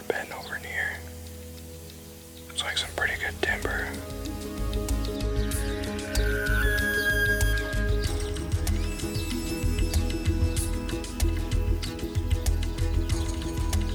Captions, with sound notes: that bend over here. Looks like some pretty good timber. (dramatic music) (elk bugling)